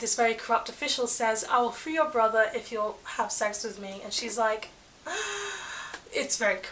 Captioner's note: gasp